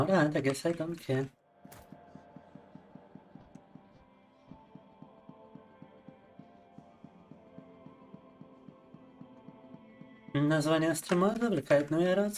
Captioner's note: speaking in Russian